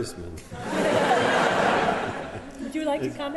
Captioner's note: laughter